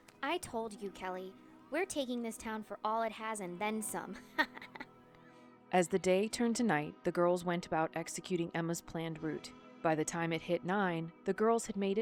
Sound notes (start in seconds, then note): 4.2 Emma chuckles